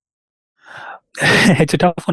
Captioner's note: laughs